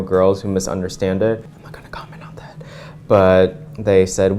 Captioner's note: whispering